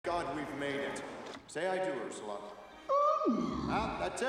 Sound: guttural Groan

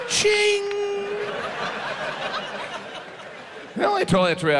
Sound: audience laughs

